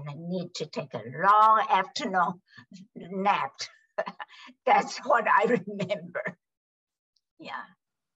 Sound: laughs

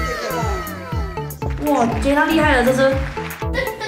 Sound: clapping

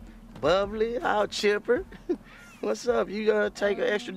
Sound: chuckles

